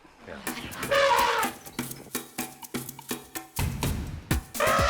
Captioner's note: elephant trumpeting